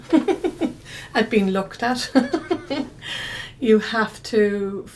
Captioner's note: she chuckles; she chuckles again